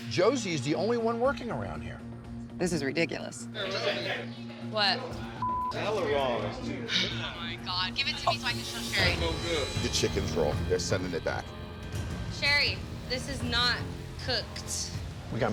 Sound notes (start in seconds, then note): 5.4 beep